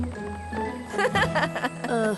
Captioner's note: laughter